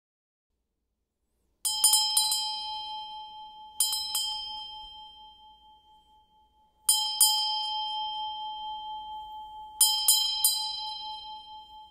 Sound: bells

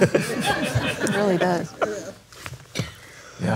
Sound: laughs

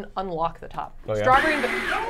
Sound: ice cream maker whirring

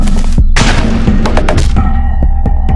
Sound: body slam

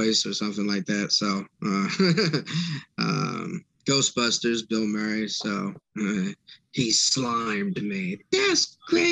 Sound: laughter

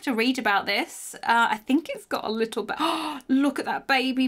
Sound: gasps

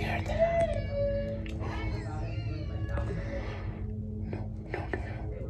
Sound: voices yelling

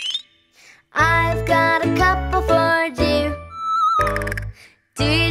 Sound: xylophone notes; soft whistling

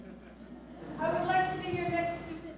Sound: laughter

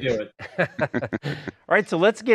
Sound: laughs

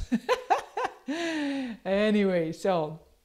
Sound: laughs

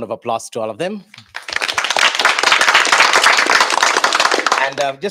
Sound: applause

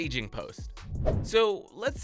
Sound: playful whoosh

